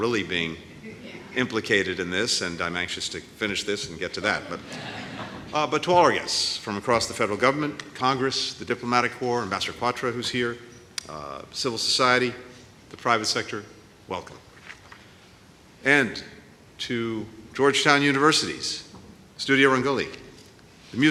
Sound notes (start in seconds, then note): 4.2 laughter